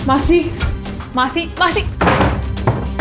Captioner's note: Door closes; Door knocking